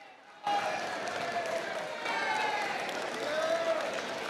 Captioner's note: applause, cheers